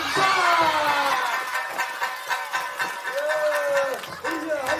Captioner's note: crowd cheers as the match comes to an end